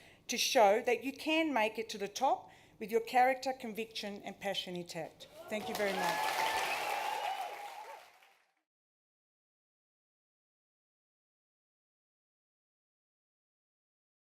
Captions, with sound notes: to show that you can make it to the top with your character, conviction and passion intact. Thank you very much. (CHEERING, APPLAUSE)